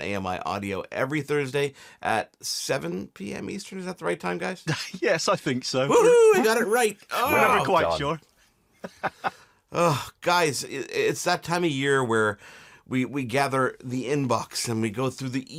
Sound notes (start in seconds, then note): 4.3 laughs; 5.9 yells